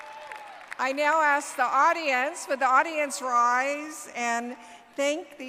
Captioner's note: cheers and applause